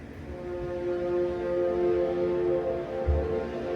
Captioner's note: horns blaring